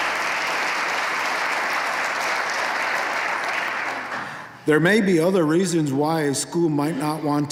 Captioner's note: applause